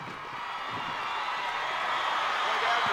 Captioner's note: crowd cheering